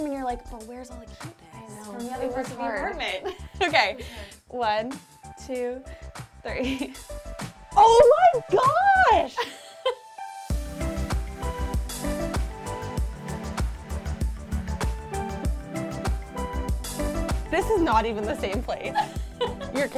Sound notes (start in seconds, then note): 2.7 chuckles; 9.1 laughing; 10.2 upbeat music; 18.8 laughing